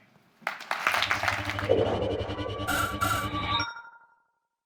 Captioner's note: applause